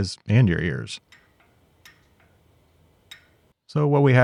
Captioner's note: metal clanking